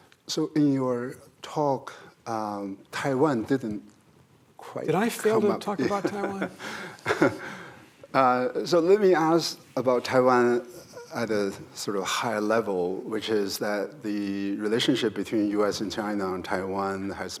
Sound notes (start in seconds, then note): 5.6 laughs